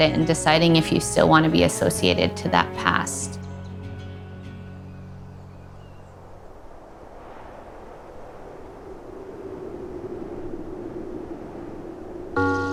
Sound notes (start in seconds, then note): 6.2 wind blows